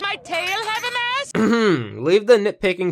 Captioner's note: throat clearing